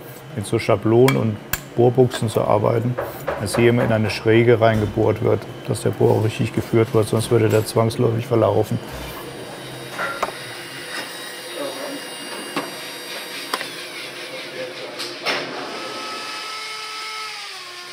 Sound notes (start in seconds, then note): 9.7 high humming noise